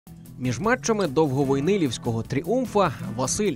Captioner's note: voiceover